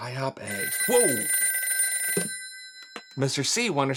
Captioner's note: phone ringing